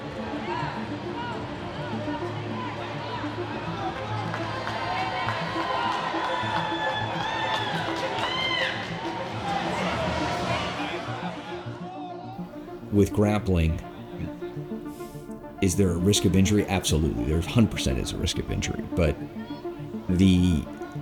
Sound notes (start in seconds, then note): 1.1 crowd cheers